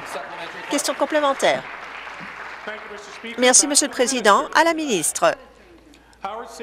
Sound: some Applause

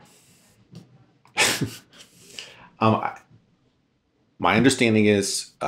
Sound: laughs

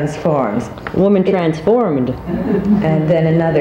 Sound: audience laughs

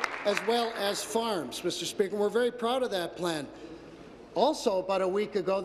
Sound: applause

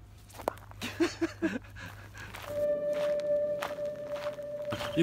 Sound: laughs

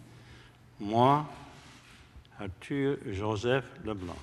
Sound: speaking french

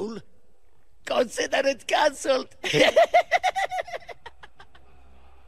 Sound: laughs

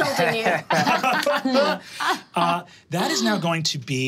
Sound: all laughing

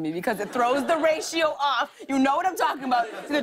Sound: laughter

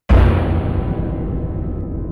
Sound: horrorsoundeffect.mp3

